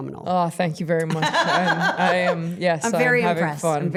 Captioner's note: Stephanie laughing